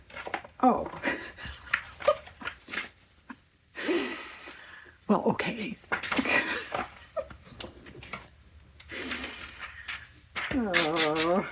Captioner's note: laughs